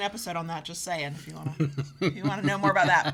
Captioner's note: chuckles